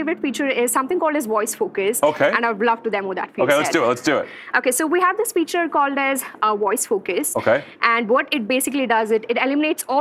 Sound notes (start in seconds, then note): none